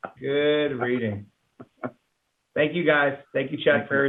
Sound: laughter

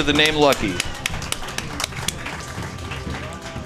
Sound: clapping

